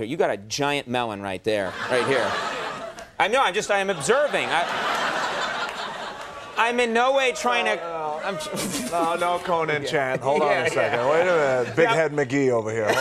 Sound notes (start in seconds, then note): 1.7 audience laughing; 8.3 Conan splutters